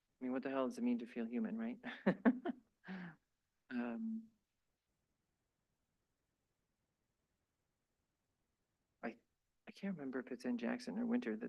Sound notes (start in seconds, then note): 1.9 chuckles